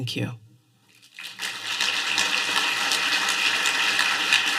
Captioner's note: applause